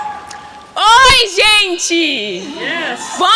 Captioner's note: speaking in Portugese